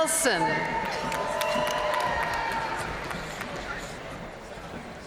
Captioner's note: audience cheering and applauding